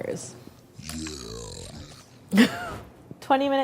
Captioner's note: deep voice